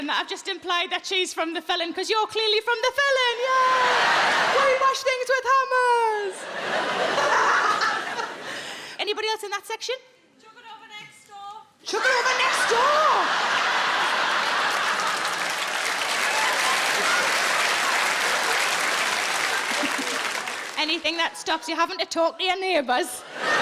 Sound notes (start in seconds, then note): 3.8 audience laughing; 6.4 audience laughing; 7.1 Sarah laughing; 13.0 audience laughing; 14.6 audience applauding